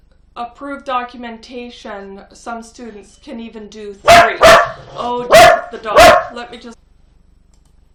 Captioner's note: barking